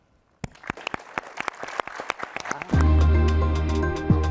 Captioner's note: guest and audience applaud; calm bright music